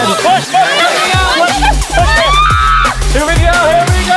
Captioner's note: screaming